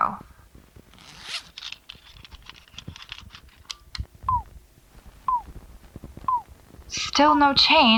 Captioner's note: small device turns on, beeping slowly and steadily; zipper